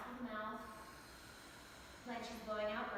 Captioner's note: exhales; exhaling